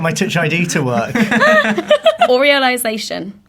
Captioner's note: laughing